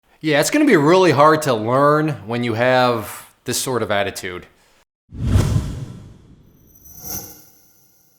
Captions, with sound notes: Yeah, it's gonna be really hard to learn when you have this sort of attitude. (swooshing)